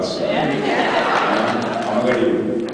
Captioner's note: laughs